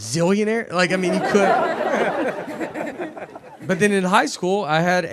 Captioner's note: audience laughing